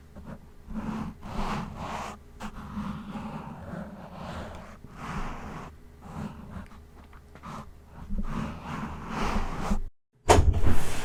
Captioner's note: microphone being traumatized; door opens